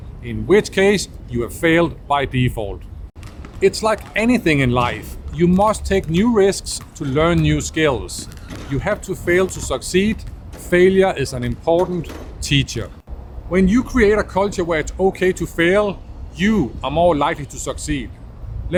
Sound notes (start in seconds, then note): 3.5 balls thudding; 8.5 hoop clanking; 10.3 balls thudding